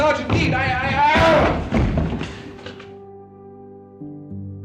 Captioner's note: Charles yelling